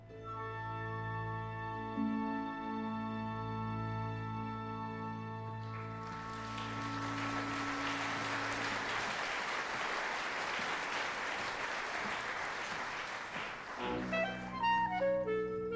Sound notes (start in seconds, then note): 6.8 applause